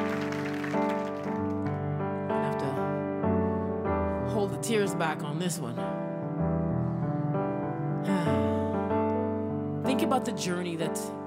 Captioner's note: applause